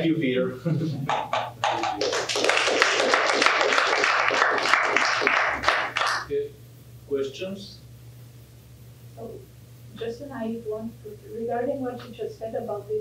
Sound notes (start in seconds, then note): 1.1 applause